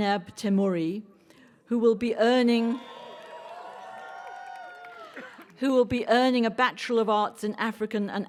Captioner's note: cheering